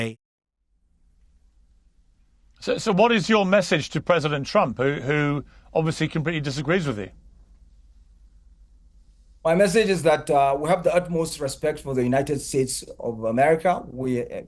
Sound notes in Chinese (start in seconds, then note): 0.6 無聲; 7.1 無聲